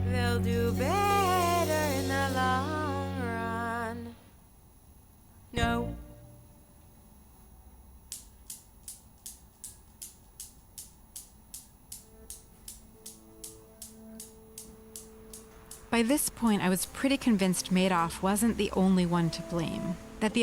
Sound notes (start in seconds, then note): 8.0 clicking; 12.7 soft music